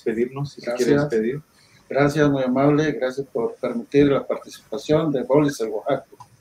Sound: speaking in foreign language

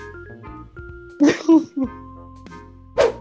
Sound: laughs

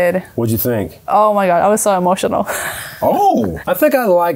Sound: laughs

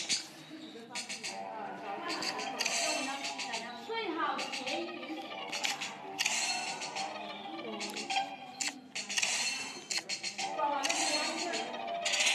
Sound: various noises from background, and in-game noises and music

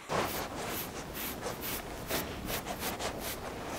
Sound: brushing

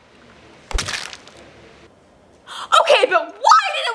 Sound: splat

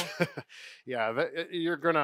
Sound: chuckles

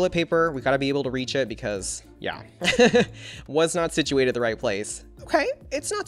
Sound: laughs

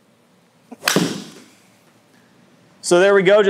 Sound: golf ball smacking

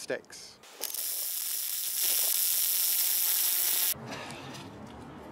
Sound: electronic zapping

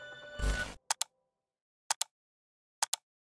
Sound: mouse clicking

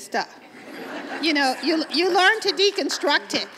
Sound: laughter from audience

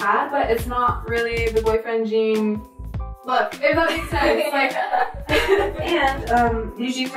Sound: both laugh

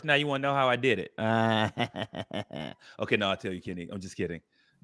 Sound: chuckles

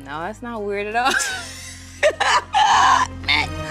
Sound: laughing

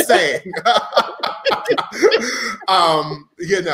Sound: all laughing

